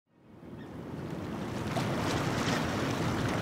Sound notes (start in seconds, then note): 0.1 road traffic and water current